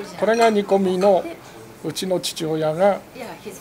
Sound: speaks in foreign language

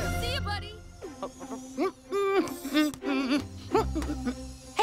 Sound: Cozmo humming

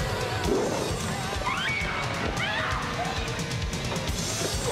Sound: screaming

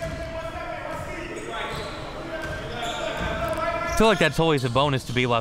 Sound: players yelling

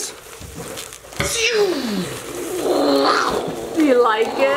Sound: imitates starship whooshing

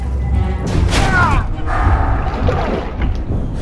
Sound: shouts

